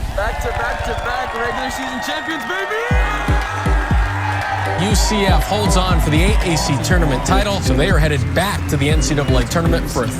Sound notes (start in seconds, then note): 3.4 cheering